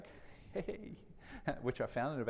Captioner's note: chuckles